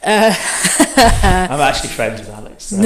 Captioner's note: both laugh